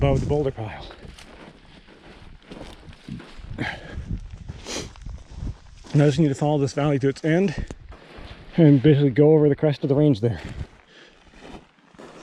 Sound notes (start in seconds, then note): 0.1 gravel crunching; 3.4 sighing and sniffing